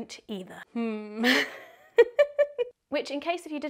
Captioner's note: laughs